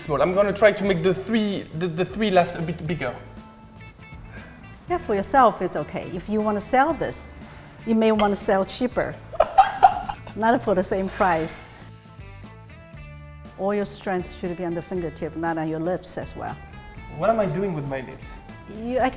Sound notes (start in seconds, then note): 9.3 laughs